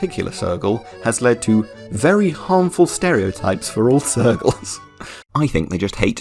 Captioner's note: giggle